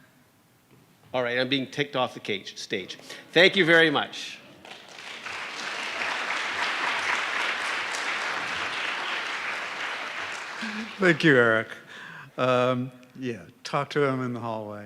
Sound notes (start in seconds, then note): 4.6 applause